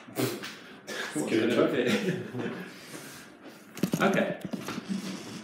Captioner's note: laughing